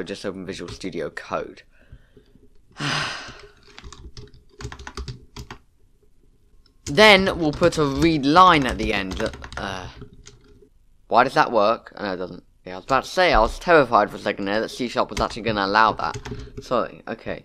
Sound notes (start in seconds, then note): 2.7 sigh